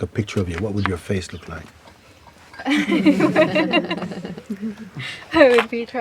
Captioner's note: laughter